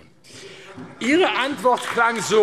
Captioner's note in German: Beifall AfD